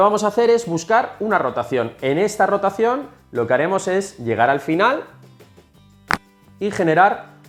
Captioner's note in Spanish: crack